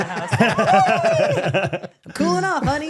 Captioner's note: all laughing